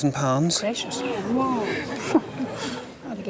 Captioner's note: crowd gasps